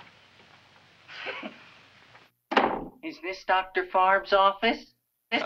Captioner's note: chuckles